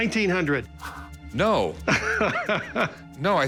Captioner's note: laughs